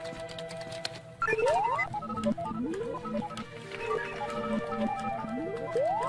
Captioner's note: beeping, whirling, music continues